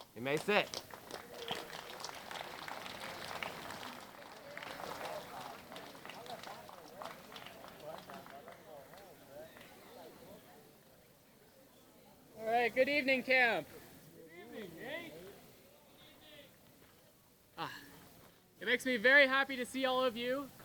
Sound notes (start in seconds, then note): 2.3 audience applauding; 4.2 audience chattering